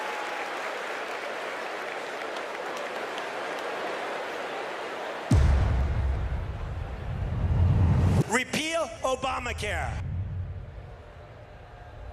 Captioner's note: applause